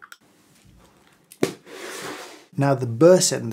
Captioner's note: lid closes shut